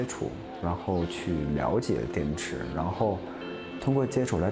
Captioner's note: speaking chinese